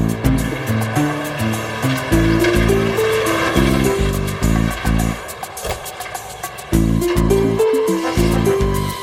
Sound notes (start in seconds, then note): 7.1 engine revving